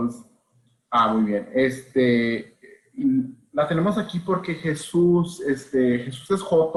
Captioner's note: Spanish